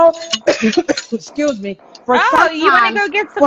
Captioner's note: coughing